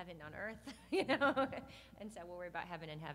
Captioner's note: laughs